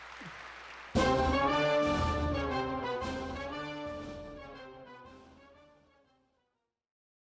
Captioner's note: applause